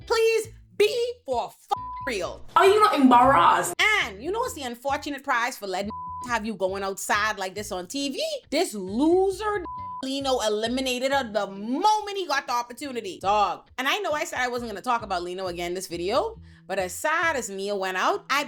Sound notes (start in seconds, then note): 1.7 beep; 5.8 beep; 9.6 beep